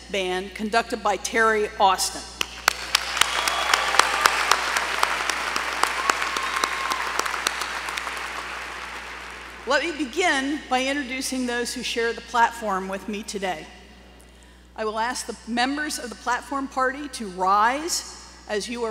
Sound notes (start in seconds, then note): 2.4 applause